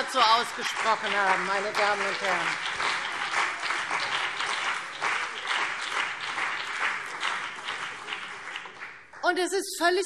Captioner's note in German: Beifall CDU und BÜNDNIS 90/DIE GRÜNEN